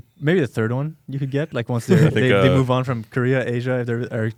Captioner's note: laughs